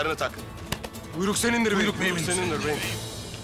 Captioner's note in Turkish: Hep bir ağızdan